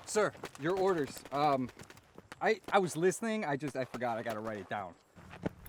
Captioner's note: none